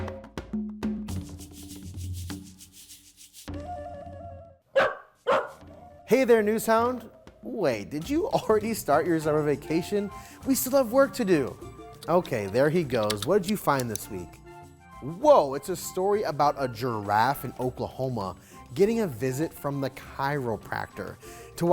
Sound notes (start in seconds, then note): 0.8 upbeat music; 4.7 dog barking